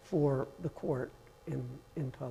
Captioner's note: none